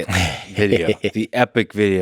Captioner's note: Tim laughs